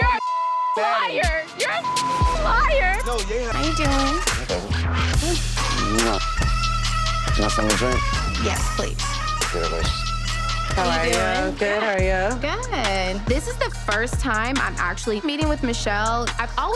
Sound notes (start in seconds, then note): 0.0 beep; 9.7 speaks faintly